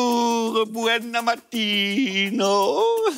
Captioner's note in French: rire